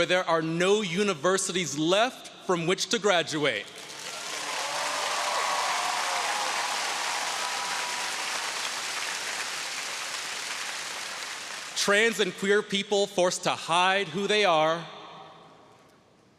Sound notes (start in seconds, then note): 3.9 audience cheering